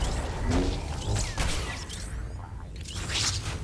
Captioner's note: explosion